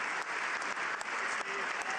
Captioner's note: cheering